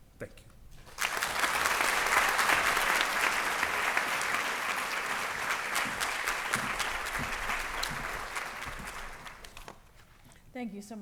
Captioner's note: applause